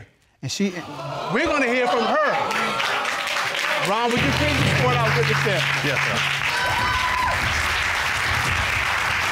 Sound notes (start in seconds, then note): 2.4 audience exclaims, applauds; 7.5 audience cheering